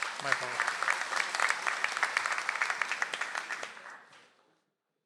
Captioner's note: audience applauds